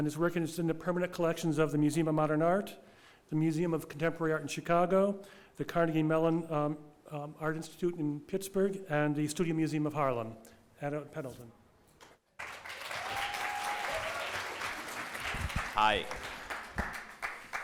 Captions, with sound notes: and his work is in the permanent collections of the Museum of Modern Art, the Museum of Contemporary Art in Chicago, the Carnegie Mellon Art Institute in Pittsburgh and the Studio Museum of Harlem. Adam Pendleton. (audience applause) - Hi.